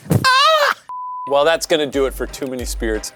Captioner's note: shouts; screen beeps